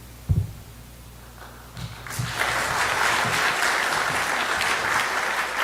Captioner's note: audience applause